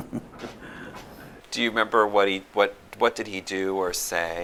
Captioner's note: laughter